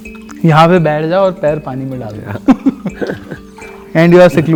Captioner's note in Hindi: हंसी